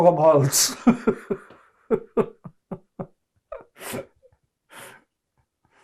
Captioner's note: laughing